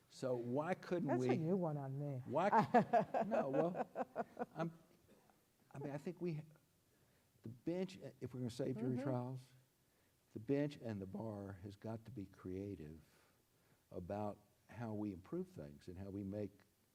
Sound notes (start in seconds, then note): 2.3 laughs